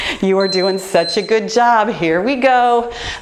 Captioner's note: time beeping